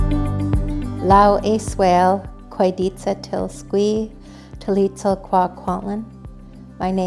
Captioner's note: speaking hən̓q̓əmin̓əm̓